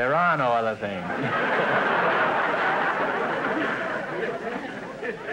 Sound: audience laughter

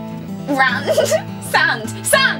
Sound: laughs

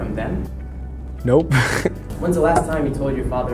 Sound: laughs

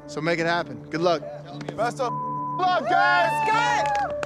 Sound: beep

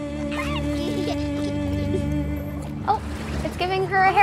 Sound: baby giggling

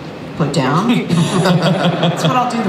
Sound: Chris laughs

